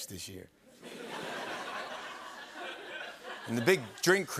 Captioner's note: laughter